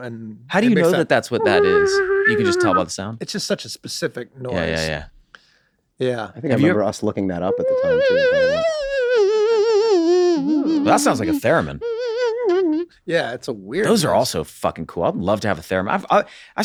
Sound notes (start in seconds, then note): 0.9 Charlie whistles eerily; 7.5 Charlie imitates saw